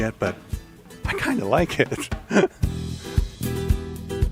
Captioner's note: laughing